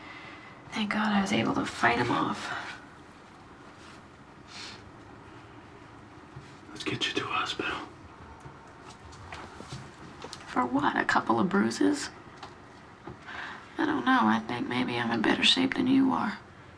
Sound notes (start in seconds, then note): 4.5 sniffles